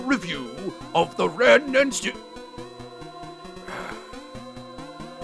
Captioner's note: sighs